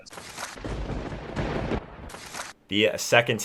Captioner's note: thunder rumbling